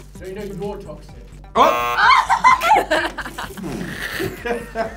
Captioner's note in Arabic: صراخ